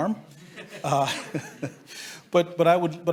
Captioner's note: laughs